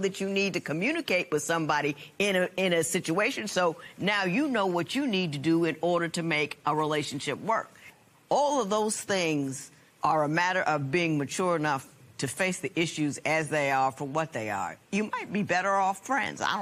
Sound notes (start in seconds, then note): none